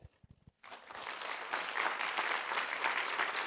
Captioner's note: applause